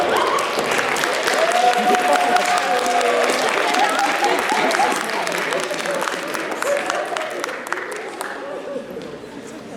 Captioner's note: applause